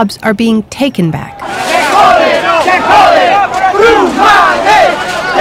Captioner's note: chanting in Spanish